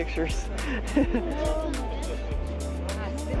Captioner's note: laughs